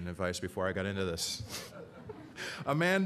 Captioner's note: laughter